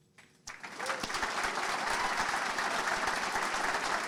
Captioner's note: audience clapping